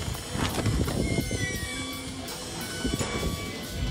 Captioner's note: door creaking